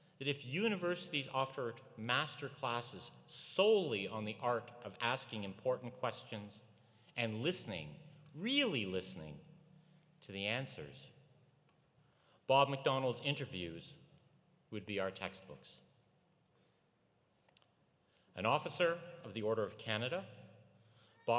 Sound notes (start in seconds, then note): none